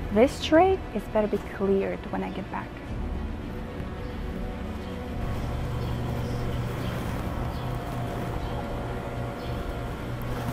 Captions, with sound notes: This tray, it better be cleared when I get back. (birds chirping)